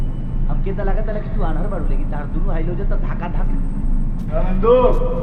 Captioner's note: bhojpuri dialogues playing on screen